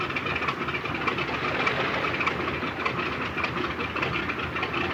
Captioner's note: airplane motor revving